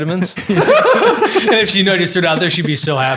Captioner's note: group laughing